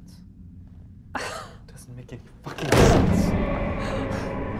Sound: chest slams hard; deep guttural, growling scream coming from deep in the cave

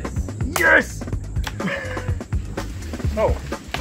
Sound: clap hands; laughter

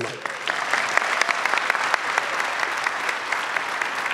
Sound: clapping

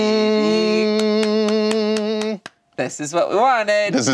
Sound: humming

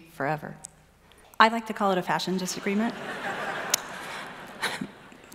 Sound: laughing

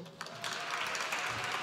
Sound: applause

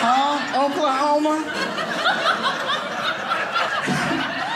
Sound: audience laughing

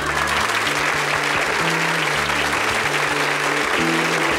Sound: audience applauding

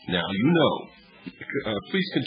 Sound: laughs

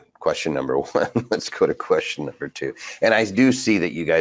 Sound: chuckles

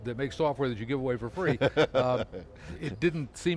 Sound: laughs

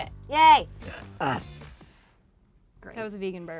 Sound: burps

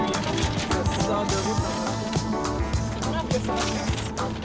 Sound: paper crumpling

